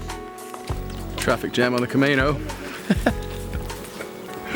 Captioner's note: laughs